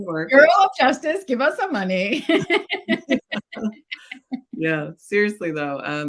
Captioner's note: laughs